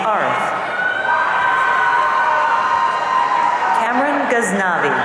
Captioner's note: audience cheering